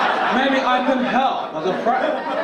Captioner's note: audience laugh